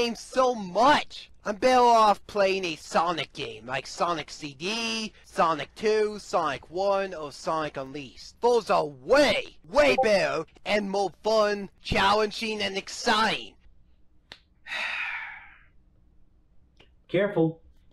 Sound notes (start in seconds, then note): 9.8 Discord ping